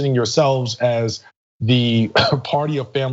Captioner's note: cough